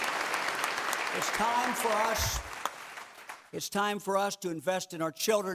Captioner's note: clapping